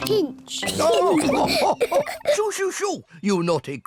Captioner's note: all laugh